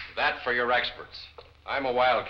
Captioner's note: snaps fingers